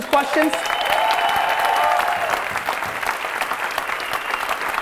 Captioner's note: applause and cheering